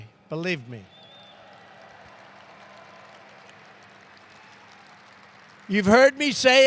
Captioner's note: applause